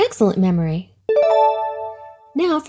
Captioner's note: check mark dings